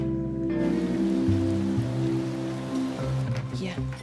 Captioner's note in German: Rain showers